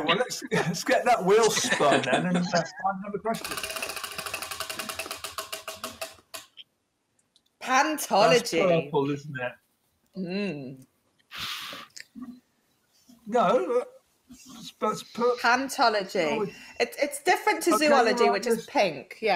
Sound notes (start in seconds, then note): 3.4 wheel ticking